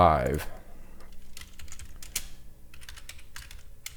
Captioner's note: typing